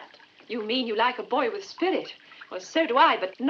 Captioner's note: none